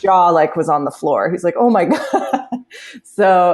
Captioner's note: laughs